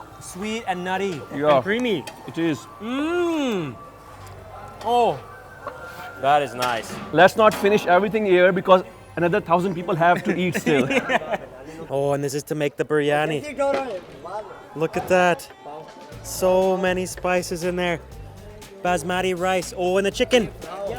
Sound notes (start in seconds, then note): 10.0 laughing